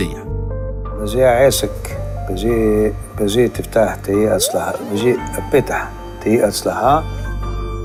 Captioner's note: hebrew blessings